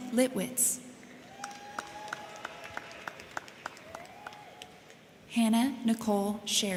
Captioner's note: crowd clapping; crowd cheering